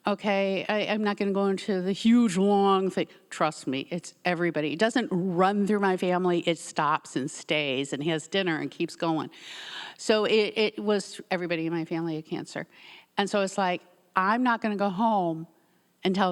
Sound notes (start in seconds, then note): none